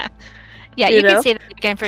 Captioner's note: laughing